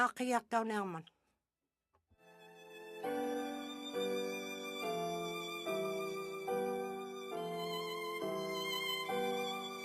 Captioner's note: alternate language spoken